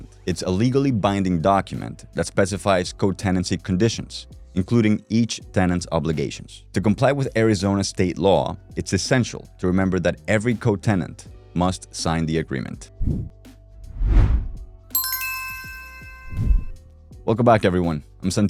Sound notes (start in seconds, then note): 13.8 logo swooshes; 14.9 name chimes